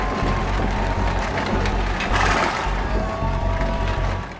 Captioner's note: objects clattering